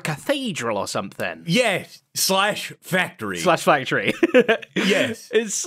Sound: chuckles

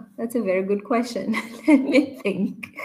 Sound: chuckles

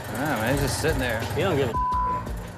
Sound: beep

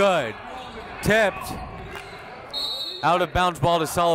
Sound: whistle

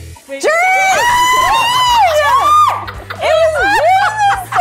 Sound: screams

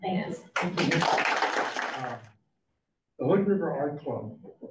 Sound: audience claps

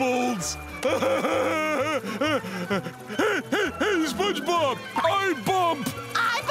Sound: laughing

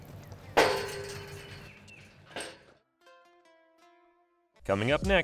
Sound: gate metal clanking

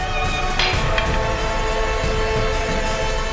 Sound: clanging

